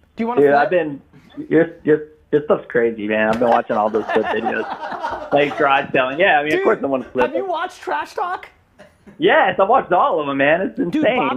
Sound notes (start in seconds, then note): 5.0 laughing